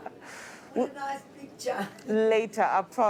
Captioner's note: chuckles